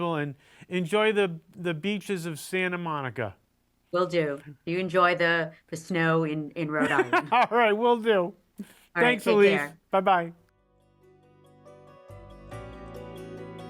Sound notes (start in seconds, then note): 6.8 laughing; 10.5 soft music